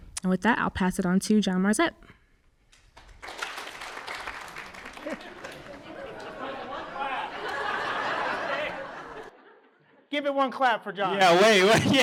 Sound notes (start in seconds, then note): 3.2 audience applauds; 4.9 audience laughs